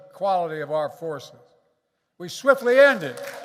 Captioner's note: applause